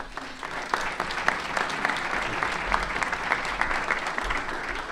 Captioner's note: applause